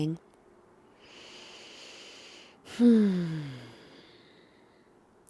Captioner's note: inhaling and exhaling